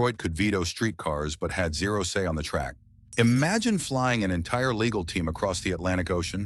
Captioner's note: SFX: low bass drop